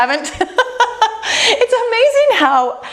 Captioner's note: laughing